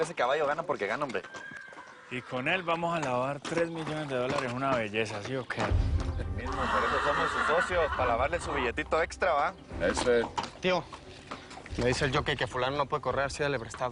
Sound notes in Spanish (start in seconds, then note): 6.4 Relinchos